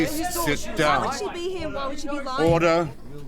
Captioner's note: multiple voices